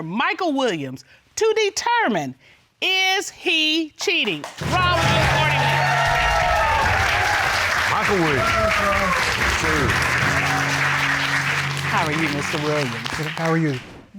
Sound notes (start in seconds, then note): 6.6 audience cheering